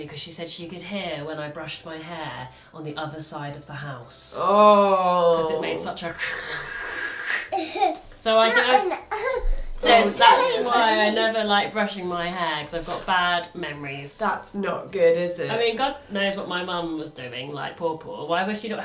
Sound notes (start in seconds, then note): 4.9 hisses; 7.5 laughs